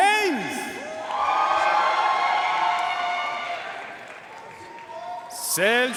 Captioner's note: audience cheering and applauding